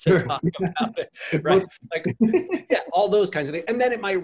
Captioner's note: both laugh